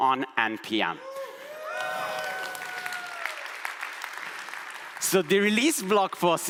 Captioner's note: audience applauds